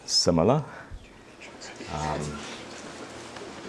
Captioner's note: murmured discussion